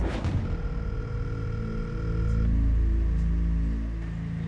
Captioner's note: line ringing